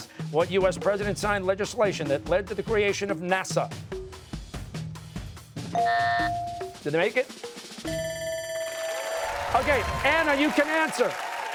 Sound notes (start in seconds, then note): 5.8 buzzer, bell dings; 7.9 bell ringing, cheers and applause